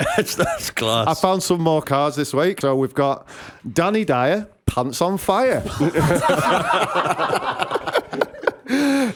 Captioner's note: laughter